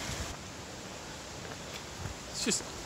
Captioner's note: rain falling